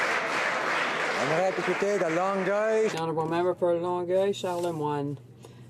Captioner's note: applause